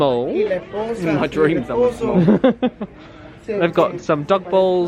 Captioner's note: laughs